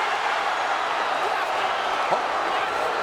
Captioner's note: crowd cheering